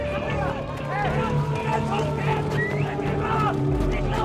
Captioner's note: siren wails